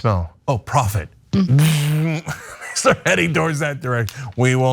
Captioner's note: laugh